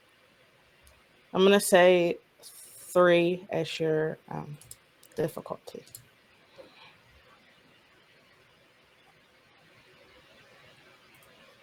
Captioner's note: More Roll20 clicking